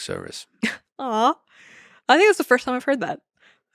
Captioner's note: chuckles